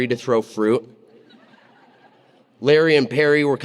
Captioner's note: audience laughing